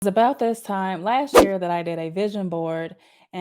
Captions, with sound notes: - It's about this time (swoosh) last year that I did a vision board,